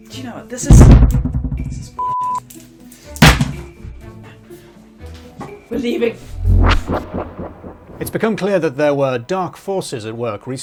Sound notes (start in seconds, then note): 3.3 microphone bangs